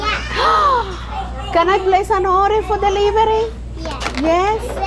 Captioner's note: gasps